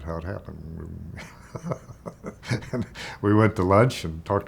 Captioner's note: laughs